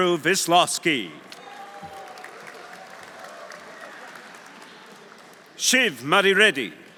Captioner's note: audience cheering; audience applauding